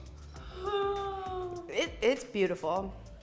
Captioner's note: gasps